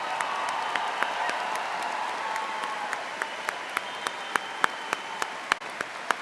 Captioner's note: audience applauding and cheering